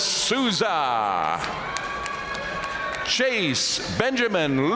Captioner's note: audience cheering and applauding